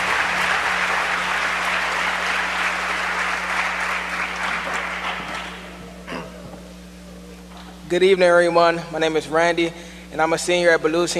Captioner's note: applause